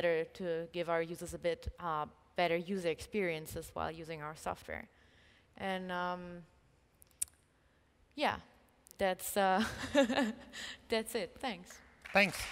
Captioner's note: applause